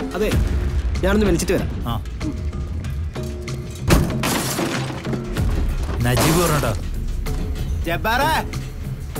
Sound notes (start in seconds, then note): 3.6 car Door Open; 3.6 breaking Sounds